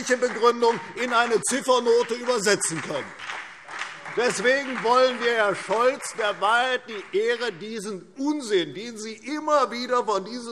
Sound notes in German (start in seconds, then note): 2.4 Beifall CDU und BÜNDNIS 90/DIE GRÜNEN